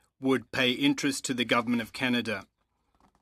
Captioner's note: speaking French